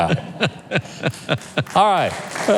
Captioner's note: laughs